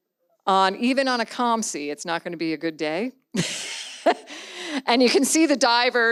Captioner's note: laughs